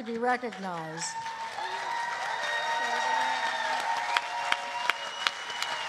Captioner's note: cheering